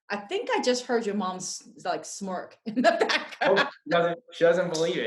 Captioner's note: laughs